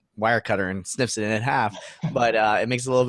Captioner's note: laughing